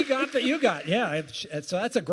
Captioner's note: applause